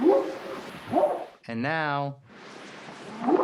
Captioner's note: whooping sound